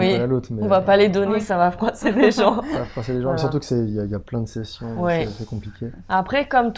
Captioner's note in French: rire